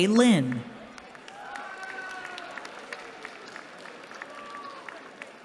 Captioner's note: cheering